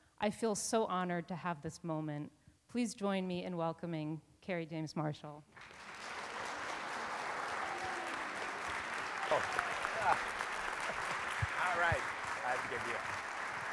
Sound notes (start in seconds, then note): 5.5 audience applauds; 5.6 audience cheers